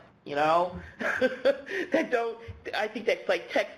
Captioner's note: laughs